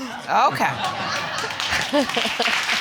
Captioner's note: laughing